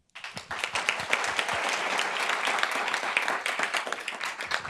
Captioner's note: group applauds